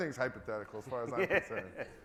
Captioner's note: laughs